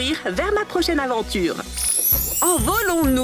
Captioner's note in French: bruit de baguette magique